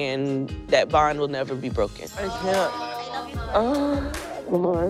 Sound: groans

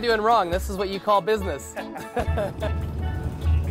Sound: laughs

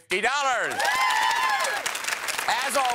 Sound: applause

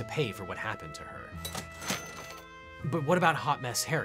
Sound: cash register dings

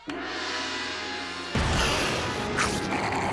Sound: hissing

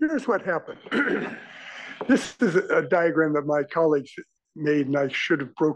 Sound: cough

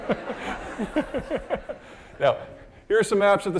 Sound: all laughing

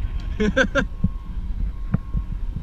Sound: laughing

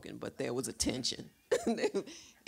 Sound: Dash chuckles

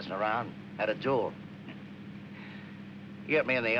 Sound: chuckles

